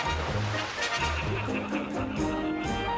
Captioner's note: people laughing